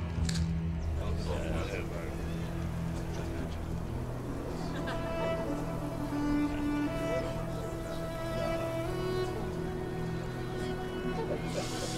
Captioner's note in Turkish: Fısıltı sesleri